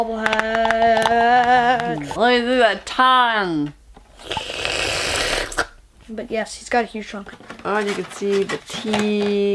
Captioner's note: slurp